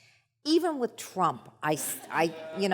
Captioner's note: audience laughs